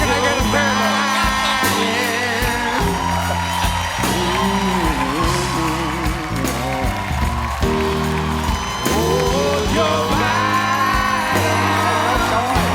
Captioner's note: applause